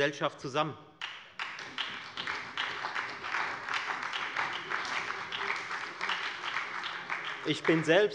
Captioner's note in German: Beifall bei Abgeordneten der FDP, der SPD und der LINKEN